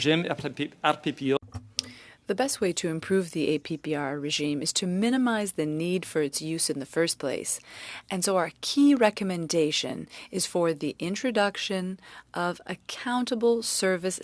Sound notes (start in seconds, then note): 2.9 speaking French